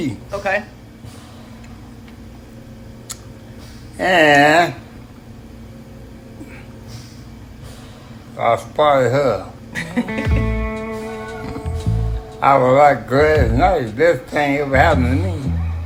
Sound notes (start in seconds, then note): 9.7 laughter